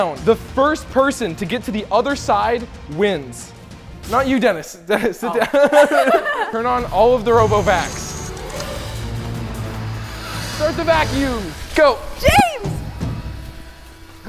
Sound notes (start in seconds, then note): 5.2 giggling; 8.1 intense music; 12.7 intense music